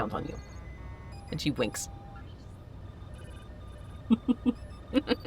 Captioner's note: chuckles